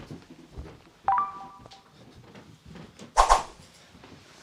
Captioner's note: bell chiming